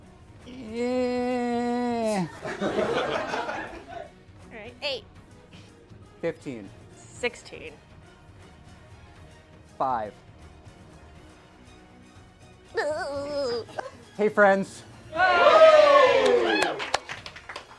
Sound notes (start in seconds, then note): 12.5 strange belly rubbing noise; 15.1 cheers